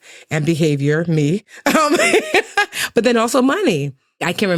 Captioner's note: laughs